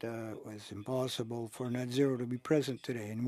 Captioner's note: speaking French